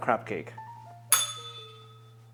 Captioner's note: bell rings